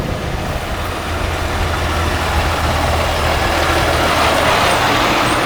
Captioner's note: engine rumbling